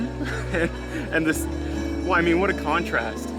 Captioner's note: laughing